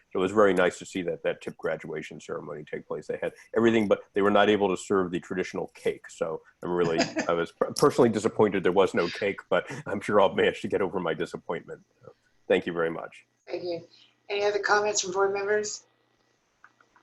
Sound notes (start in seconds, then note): 6.8 laughter